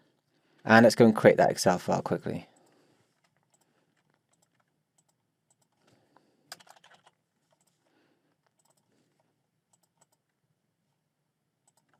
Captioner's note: clicking and typing